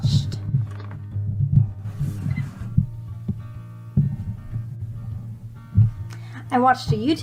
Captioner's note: mic popping and noise from readjustment to put the mic back